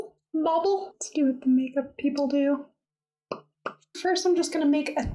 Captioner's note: pop!